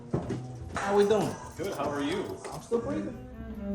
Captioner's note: footsteps stumping